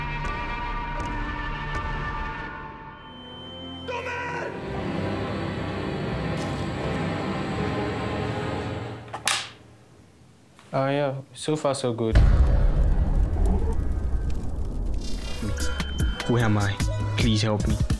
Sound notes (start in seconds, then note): 0.0 dramatic music; 3.0 beeping; 3.8 man yelling; 3.9 dramatic music; 9.1 item banging; 12.1 fire crackling; 15.5 upbeat music